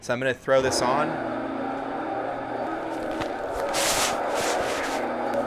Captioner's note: mixer whirring